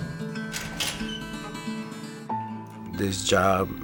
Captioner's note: lock rattling; door creaking